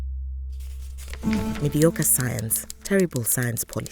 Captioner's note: a typewriter clicks passionately